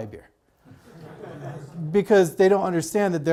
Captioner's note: audience laughs